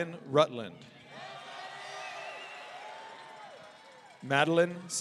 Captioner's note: audience cheering